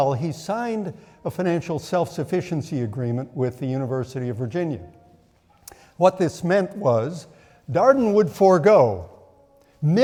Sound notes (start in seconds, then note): none